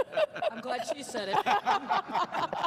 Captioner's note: all laughing